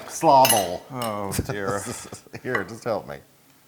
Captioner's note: laugh